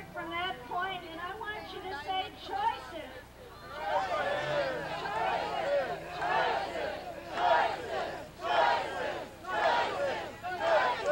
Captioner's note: crowd repeating